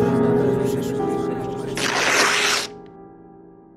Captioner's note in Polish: trzask przedartej kartki